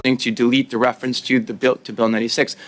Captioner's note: speaking French